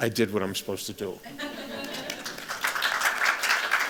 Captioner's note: laughter; applause